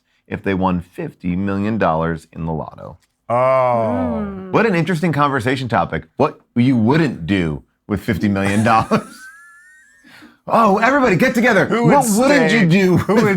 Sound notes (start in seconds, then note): 8.4 laughs